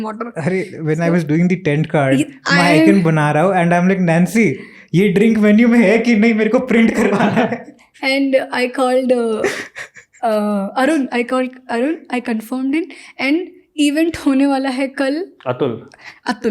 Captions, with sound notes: When I was doing the tent cards, and I'm like Nansi, is this drink in menu or not, I had to print it(Speaks in Hindi).(Chuckles) And I called Arun called, Arun confirmed him, Event is gonna be there tomorrow